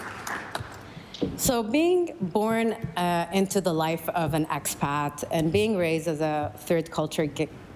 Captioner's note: applause